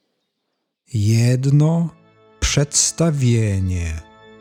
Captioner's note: german